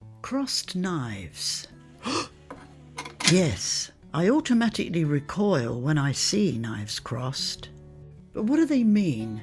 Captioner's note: gasp!